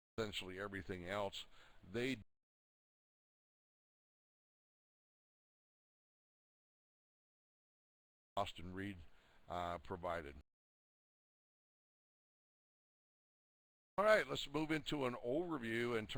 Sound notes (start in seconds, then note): 2.9 audio drops